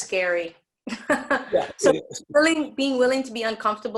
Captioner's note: laughing